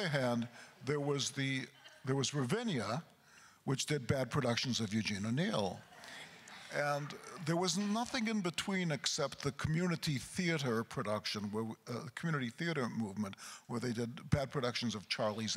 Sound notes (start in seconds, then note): 6.6 crowd chuckles